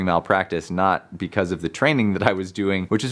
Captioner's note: chuckles